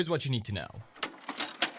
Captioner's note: VCR loading